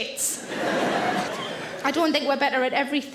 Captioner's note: audience laughs